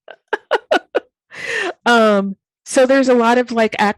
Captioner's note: laughing